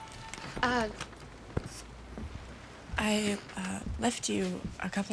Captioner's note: none